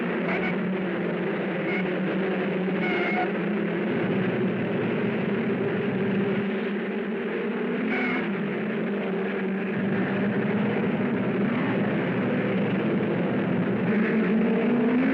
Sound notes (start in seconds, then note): 1.1 tires squealing; 5.4 cars thrumming